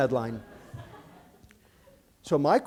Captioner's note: laughter